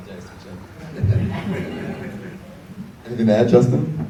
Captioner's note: audience laughs